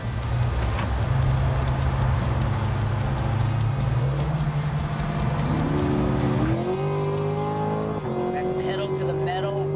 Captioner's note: engine accelerating